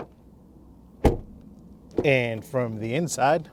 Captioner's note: door closing